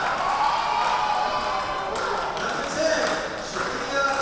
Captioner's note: crowd cheering